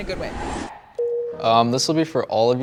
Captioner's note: high tone chimes